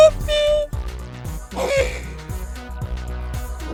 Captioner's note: sigh